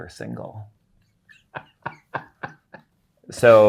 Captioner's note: guy laughing